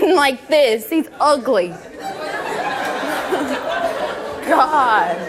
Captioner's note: audience laughs